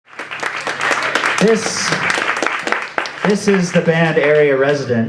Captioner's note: applause